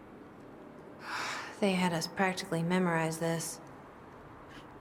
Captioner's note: sighs